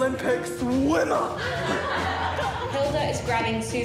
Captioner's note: laughter